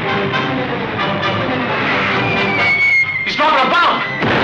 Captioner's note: exciting music; bomb whistles